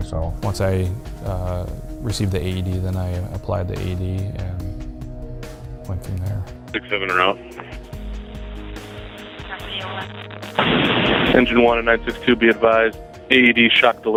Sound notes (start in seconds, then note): 6.9 voiceover